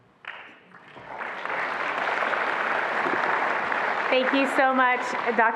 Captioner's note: attendees applauding